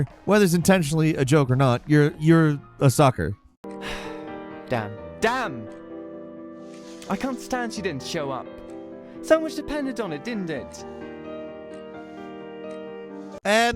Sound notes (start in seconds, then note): 3.8 sighs; 11.1 piano music